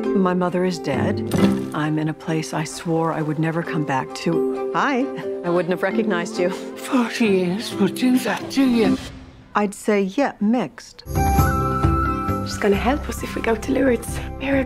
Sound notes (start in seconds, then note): 1.0 dirt patters; 11.0 bright music